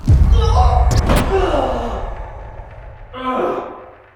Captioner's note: Jacob groaning; dramatic boom; Jacob groans; Jacob groaning